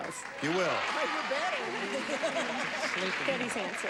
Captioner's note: laughs